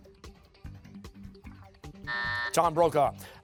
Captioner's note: buzzer